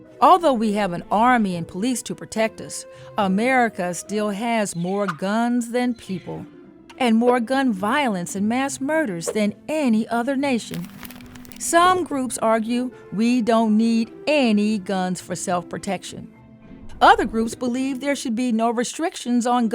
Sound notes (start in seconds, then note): 10.7 image rustling